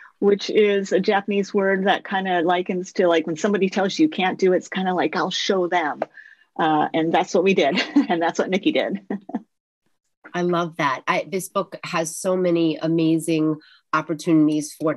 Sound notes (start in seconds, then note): 7.8 laughs; 9.7 laughs